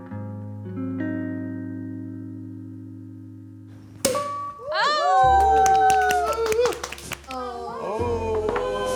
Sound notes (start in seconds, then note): 4.0 cork popping; 4.7 everyone cheering